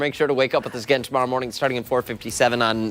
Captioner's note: laughter